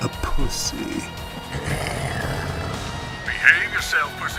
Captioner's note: growls